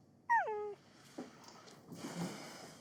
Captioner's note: dog whines